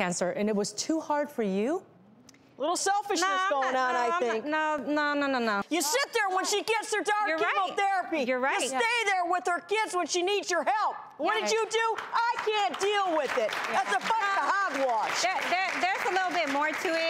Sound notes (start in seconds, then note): 15.0 applauding